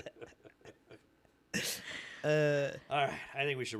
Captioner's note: laughing